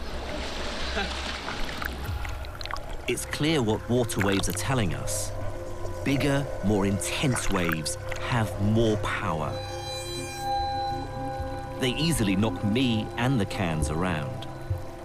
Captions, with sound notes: (chuckles) - [Voiceover] It's clear what water waves are telling us. Bigger, more intense waves have more power. They easily knock me and the cans around.